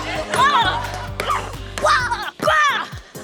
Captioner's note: grunts